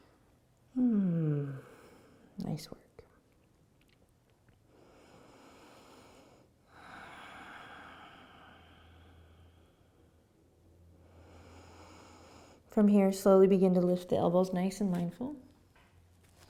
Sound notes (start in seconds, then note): 4.7 breathing